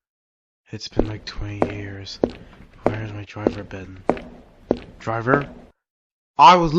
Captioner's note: hears footsteps